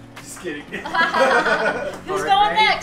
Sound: laughing

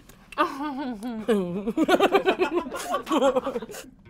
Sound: weird laughter

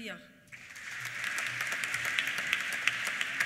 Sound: applause

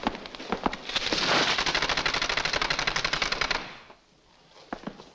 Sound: blind rattles

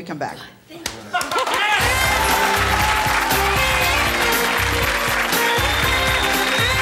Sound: audience cheering; upbeat music

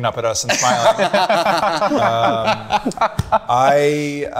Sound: group laughing

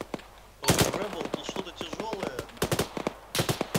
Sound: on the radio

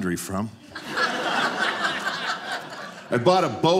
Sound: audience laughing

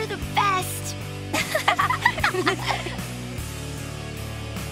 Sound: laughing

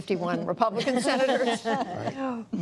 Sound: laughter

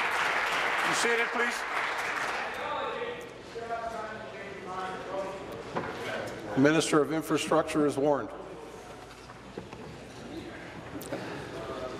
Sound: applause

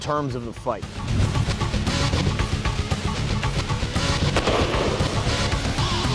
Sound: heavy metal music; slow motion gunshots

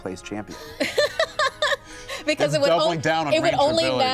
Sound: laughs

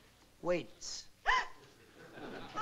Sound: gasps

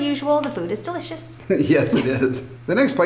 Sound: laughing

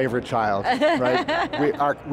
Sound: laughs

